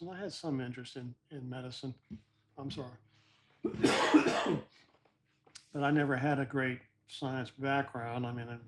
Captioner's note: cough